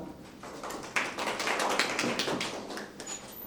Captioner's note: applause